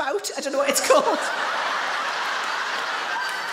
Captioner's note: audience laughs